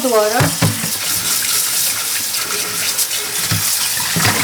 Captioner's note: water running